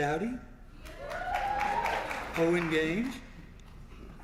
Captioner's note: applause